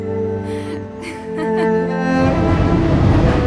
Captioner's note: gentle laughter